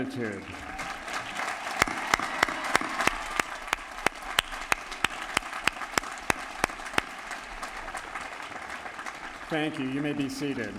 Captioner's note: applause